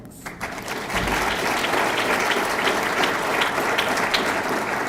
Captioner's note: audience clapping